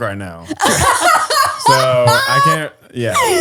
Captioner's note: all laugh